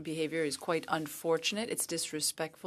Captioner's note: speaking French